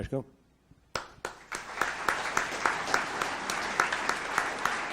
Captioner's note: audience applauds